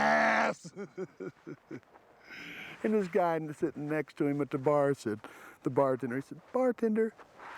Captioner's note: laugh